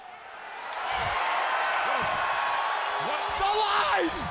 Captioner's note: crowd cheering